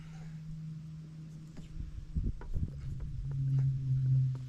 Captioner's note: wind blowing